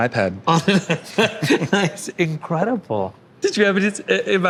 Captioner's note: laughs